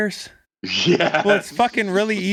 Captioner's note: laughs